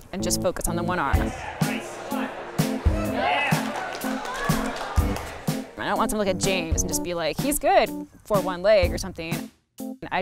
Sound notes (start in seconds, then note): 1.0 crowd cheering